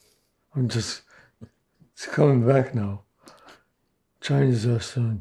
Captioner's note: laughing